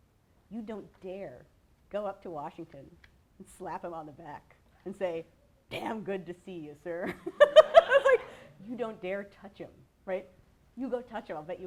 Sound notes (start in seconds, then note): 7.0 laughter; 7.3 laughs